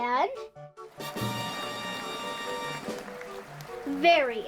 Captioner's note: cheering